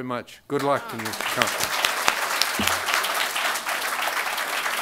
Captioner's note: crowd applauding